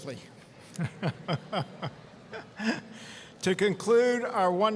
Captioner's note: chuckling